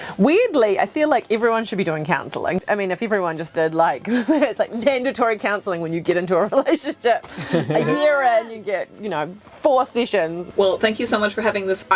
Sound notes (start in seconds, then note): 4.1 laughs